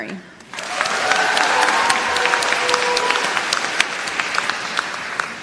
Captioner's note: applause